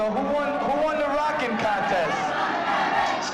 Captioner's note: crowd chants